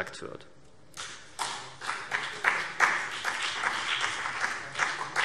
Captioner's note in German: Vereinzelter Beifall CDU und BÜNDNIS 90/DIE GRÜNEN